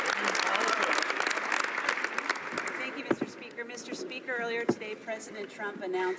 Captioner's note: some Applause